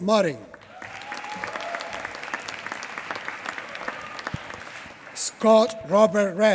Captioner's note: applause